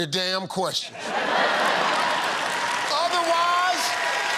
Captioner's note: laughter